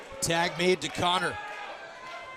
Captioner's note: crowd chatter